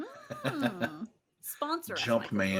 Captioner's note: laughing